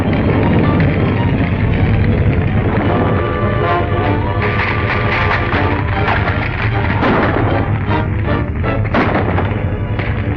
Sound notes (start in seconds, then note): 6.6 gunshots